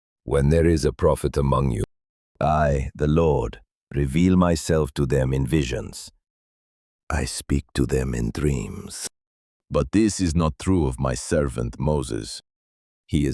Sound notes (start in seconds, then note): 6.4 whispering